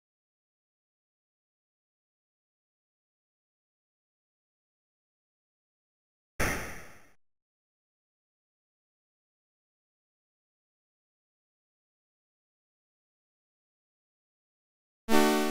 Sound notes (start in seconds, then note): 6.4 gun shot; 15.3 intense music